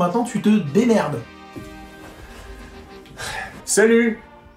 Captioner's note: sighs